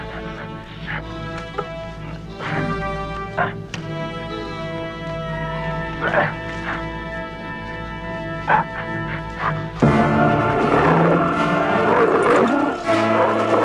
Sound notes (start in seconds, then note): 4.6 Beast whines; 8.6 Beast barks; 11.0 Beast growling